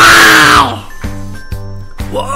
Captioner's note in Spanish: rugido